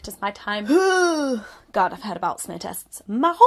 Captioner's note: groans